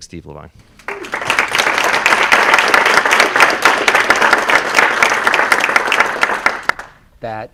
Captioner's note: applause